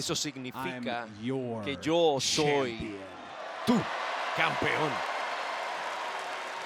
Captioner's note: applause